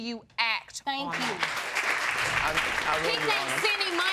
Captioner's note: audience applauding